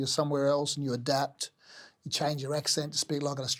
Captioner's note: in Australian accent